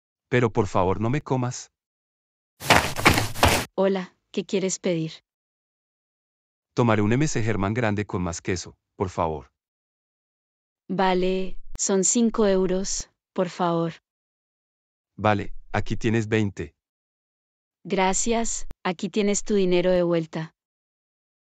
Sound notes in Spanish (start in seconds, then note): 2.6 FX - Footsteps - On Multiple Dirt - Run